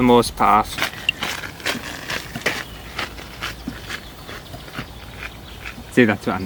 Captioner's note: footsteps